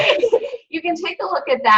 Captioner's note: laughing